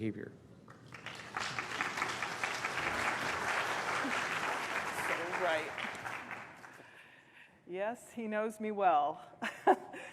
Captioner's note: applause